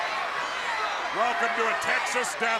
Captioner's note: crowd cheering